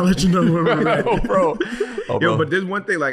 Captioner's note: chuckles